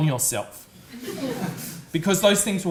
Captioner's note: audience laughs